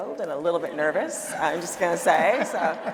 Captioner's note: audience applauding